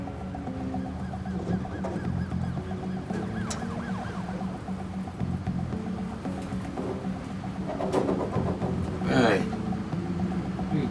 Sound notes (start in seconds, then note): 0.9 distant siren wailing